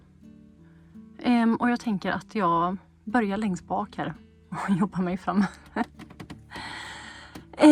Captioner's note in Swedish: skratt